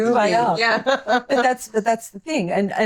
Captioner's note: laughing